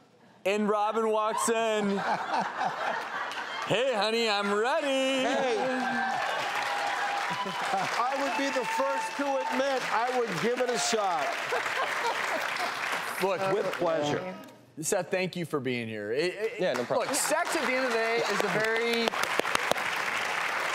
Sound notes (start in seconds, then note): 5.5 audience cheering; 11.3 laughing